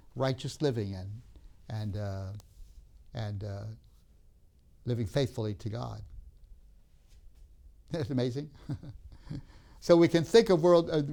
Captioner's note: laughs